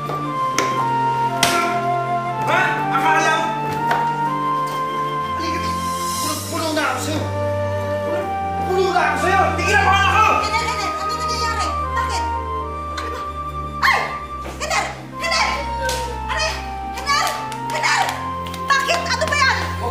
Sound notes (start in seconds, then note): 13.7 shrieks; 16.0 Nina crying